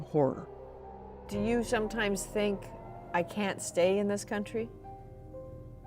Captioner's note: bombing